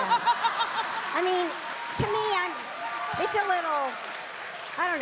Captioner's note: Amy cackling